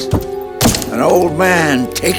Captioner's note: helmet thuds